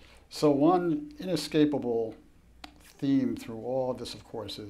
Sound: none

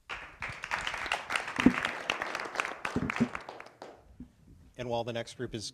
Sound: applause

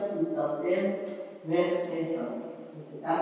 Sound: testimony in yiddish

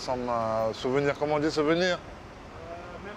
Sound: speaking in French

